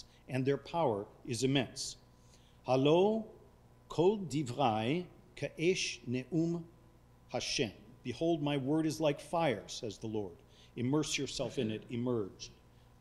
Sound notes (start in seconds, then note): 2.7 speaking foreign language